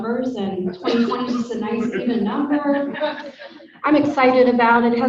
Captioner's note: audience laughing